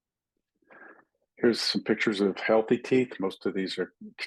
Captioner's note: indistinct chatting